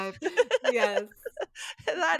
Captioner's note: laughs